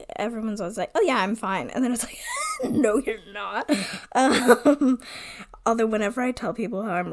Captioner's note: wheeze laughs